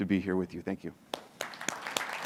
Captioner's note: applauds